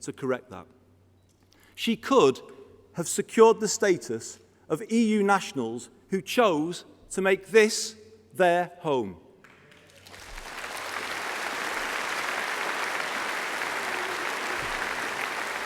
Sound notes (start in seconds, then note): 12.7 applause